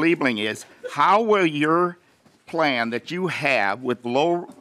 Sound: laughing

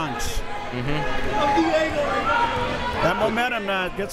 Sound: crowd members shouting

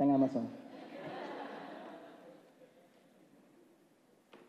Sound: laughs

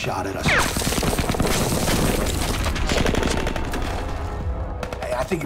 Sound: gunfire

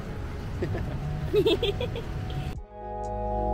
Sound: both Laughs

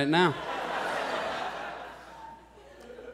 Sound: audience laughs

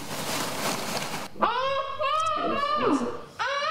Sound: Alli grunting

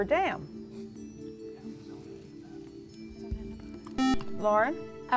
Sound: whispering

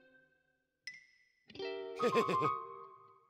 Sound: laughs

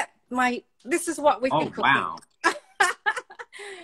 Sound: laughs

